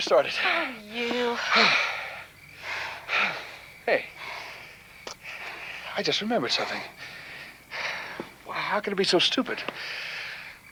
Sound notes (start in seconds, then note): 0.3 panting